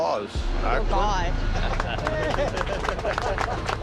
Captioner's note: applause